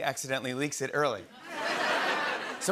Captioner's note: laughter